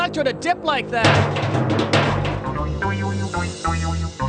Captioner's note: clunking